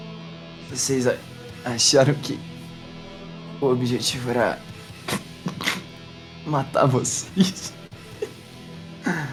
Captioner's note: chuckles